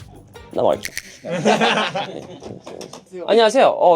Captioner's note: laughs